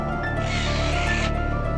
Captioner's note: whirr